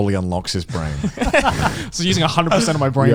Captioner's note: laughs